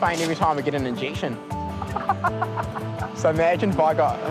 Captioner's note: laughs